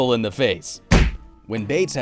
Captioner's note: kick